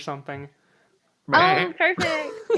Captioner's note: bleats; laughs